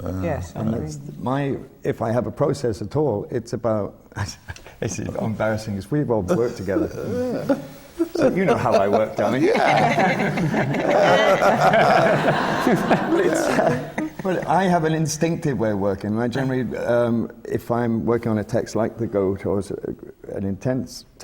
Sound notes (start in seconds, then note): 6.3 laughs; 11.0 laughter from the panel